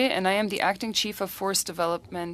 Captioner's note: speaking French